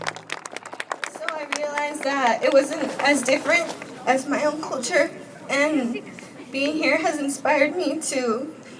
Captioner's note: applause